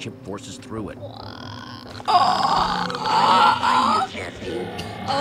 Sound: Sabrina croaks

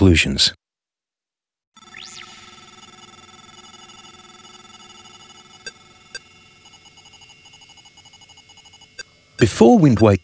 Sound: electronic computer text and beeps

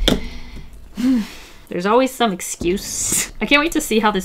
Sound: sighs

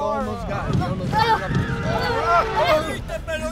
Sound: horn honking and tires screeching

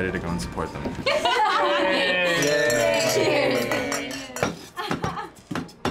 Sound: glasses clinking

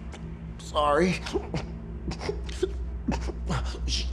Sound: struggling to breath

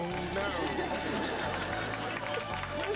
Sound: sobbing

